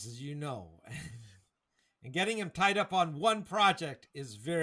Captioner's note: laughs